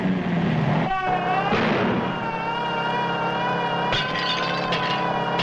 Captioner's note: sirens wailing; gun bangs; glass clatters